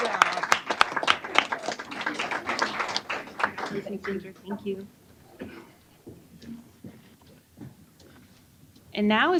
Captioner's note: applause